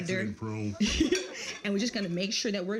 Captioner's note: all laugh